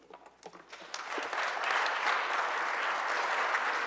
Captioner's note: applause